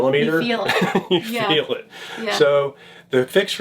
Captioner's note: laughs